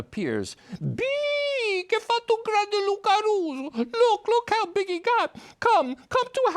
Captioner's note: speaking Italian